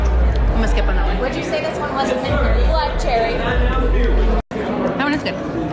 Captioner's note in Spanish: voces; voces